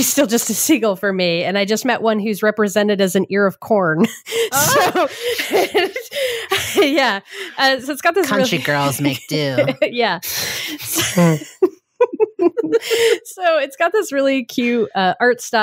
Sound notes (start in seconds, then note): 4.3 laughing; 10.7 both laughing